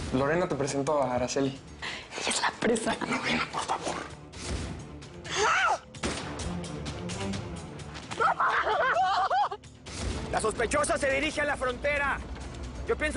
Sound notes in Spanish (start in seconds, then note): 6.0 Detonación de disparo